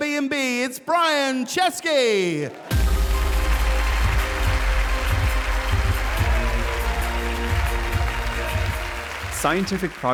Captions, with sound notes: it's Brian Chesky. (audience applauding) (upbeat music) - Scientific progress